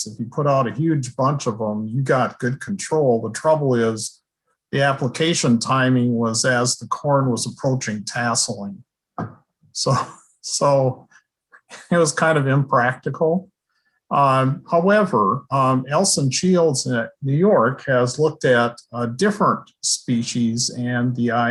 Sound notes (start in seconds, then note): 9.8 chuckle